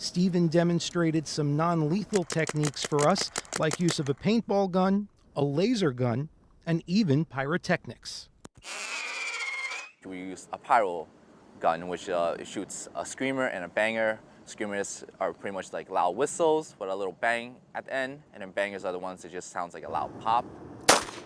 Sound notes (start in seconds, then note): 8.6 loud screeching; 20.8 loud pop